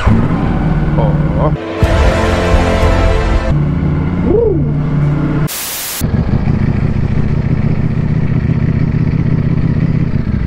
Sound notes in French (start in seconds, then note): 4.1 ronronnement de joie